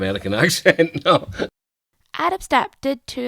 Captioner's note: laughs